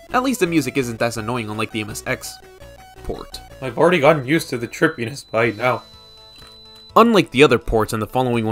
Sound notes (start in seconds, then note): 3.8 murmurs while a high pitch noise gradually fades in